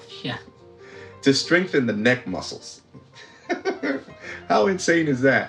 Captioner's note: laughs